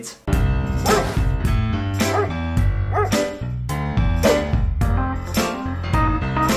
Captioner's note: soft music; dog barking